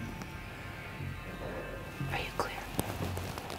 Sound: whispering

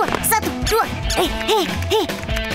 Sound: grunting

